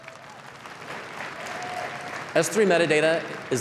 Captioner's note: applause